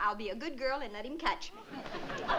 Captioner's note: laughter